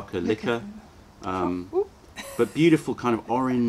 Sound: laughter

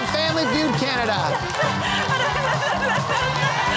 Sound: laughter

